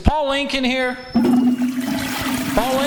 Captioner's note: toilet flushes